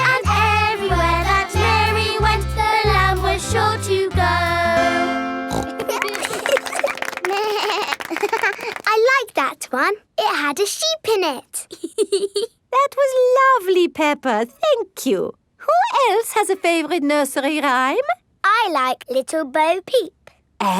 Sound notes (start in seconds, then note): 5.5 snorts; 5.5 laughing; 7.3 bleats and laughs; 11.7 laughs